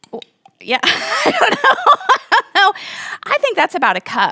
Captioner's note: laughing